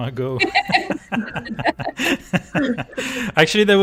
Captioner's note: laughter